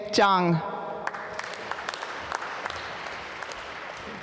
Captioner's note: applause